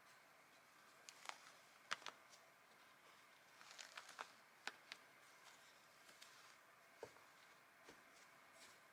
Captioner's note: magnets clicking together